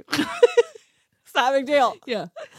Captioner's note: laughs